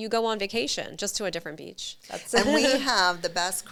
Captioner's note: chuckling